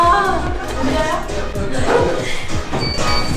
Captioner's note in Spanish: Solo riendo